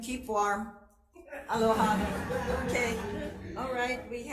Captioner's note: everyone chuckling